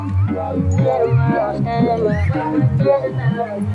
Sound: voice distorted with synthesizer

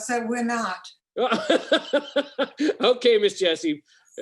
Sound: laughs

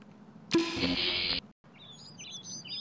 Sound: bulb buzzes; birds chirp

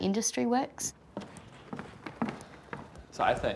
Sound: footsteps

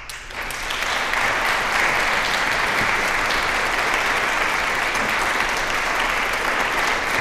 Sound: applause

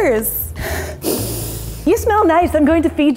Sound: sniffing

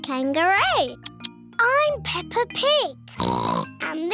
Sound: oinks

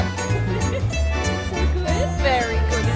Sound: laughing

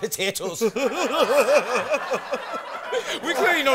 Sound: laughs

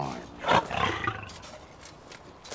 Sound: tiger snort sound

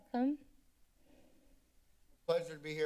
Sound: silence

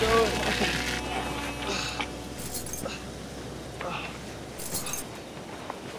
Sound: panting, chains jangle

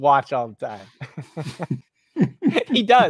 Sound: laughter

